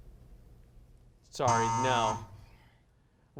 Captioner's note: buzzer sound